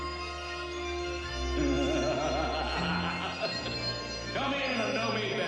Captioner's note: MAN LAUGHlNG